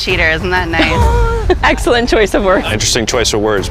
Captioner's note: chuckles